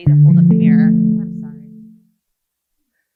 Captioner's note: loud chime